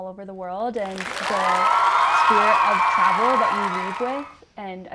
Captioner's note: audience clapping